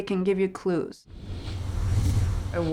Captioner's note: whooshing